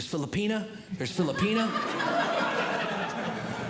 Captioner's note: audience Laughing